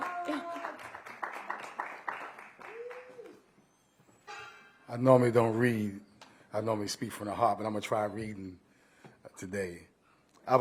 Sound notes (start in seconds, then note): 0.0 applause